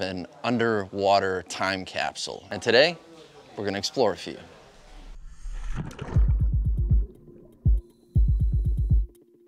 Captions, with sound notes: an underwater time capsule, and today, we're gonna explore a few. (water splashing)